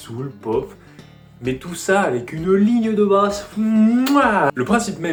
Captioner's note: smack